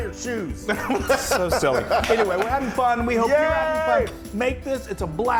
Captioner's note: laugh